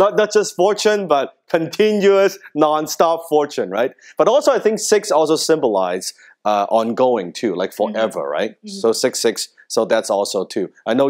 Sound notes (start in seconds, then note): none